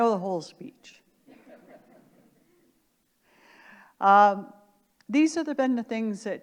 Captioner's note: audience laughter